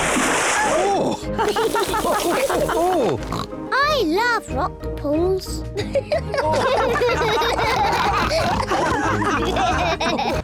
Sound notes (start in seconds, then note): 1.3 all chuckle; 5.8 all giggle